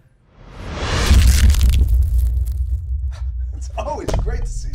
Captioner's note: hand crunches; The Rock laughs